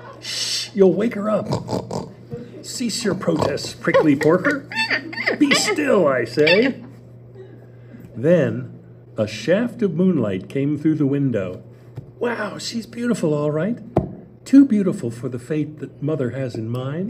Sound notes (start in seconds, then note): 1.4 snort, snort, snort; 6.2 squeals